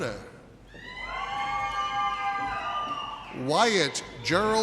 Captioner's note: audience cheers